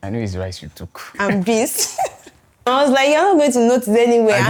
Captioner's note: laughs